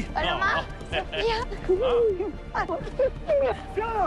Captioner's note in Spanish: Risas